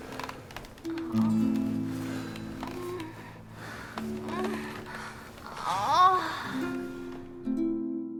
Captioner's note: passionate moaning